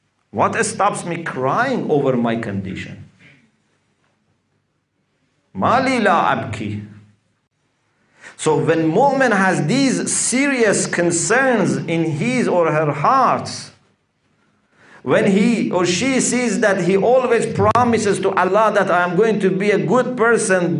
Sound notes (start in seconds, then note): 5.4 Arabic